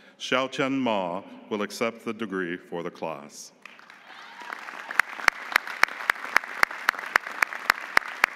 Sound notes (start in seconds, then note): 3.6 audience applauding